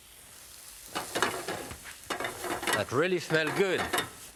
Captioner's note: pan clattering